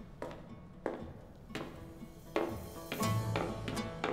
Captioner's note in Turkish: Ayak sesi